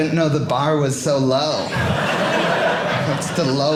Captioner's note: audience laughing